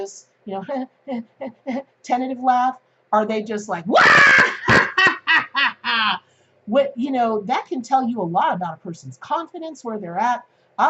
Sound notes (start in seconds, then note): 4.0 loud laugh